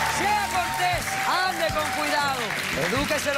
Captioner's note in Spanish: Aplausos